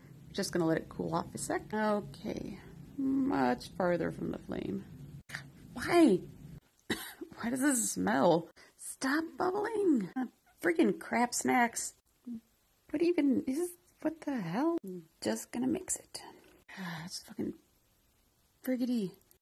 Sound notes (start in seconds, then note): 6.8 cough